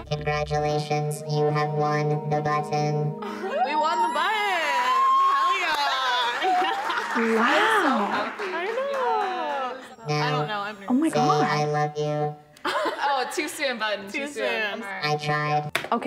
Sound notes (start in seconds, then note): 3.3 squealing